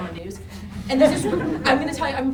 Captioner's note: group laughing